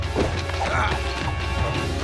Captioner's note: groaning